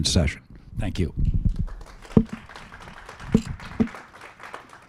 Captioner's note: applause